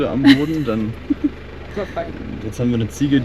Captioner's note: laughter